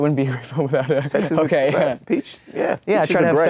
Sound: laughs

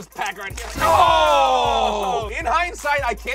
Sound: both exclaim

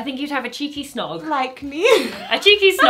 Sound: she laughs

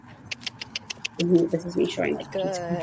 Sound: clicks tongue

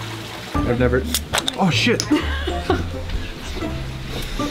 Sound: laughing

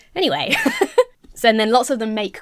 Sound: laughing

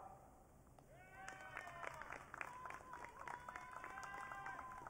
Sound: audience cheering

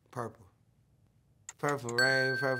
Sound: timer ticking

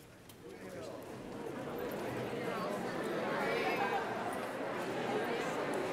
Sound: congregation chattering in background

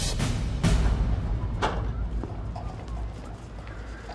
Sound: whistling

